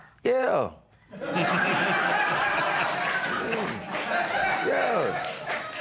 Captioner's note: laughter